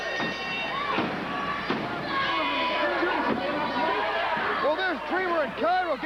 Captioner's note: bell ringing